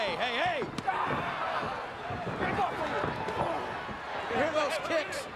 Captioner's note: kicks thwacking